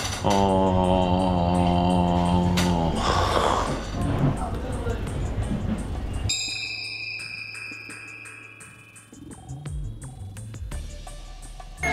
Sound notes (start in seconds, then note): 3.0 sighs